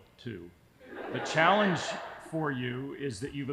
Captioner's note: audience laughing